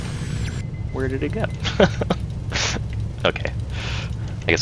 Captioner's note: laughs